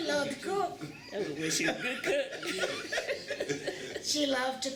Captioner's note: laughter